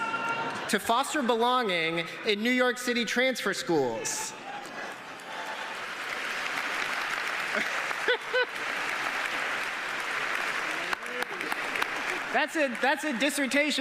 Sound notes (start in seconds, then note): 5.9 laughter; 8.0 cheers and applause